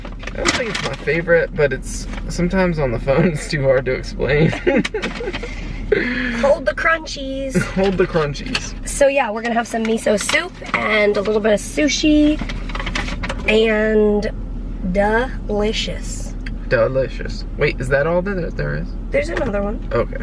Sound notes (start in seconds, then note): 4.1 chuckles